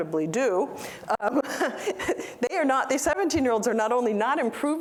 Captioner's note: laughter